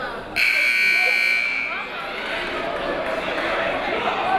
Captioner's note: timer buzzes